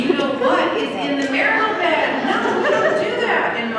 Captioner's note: laughter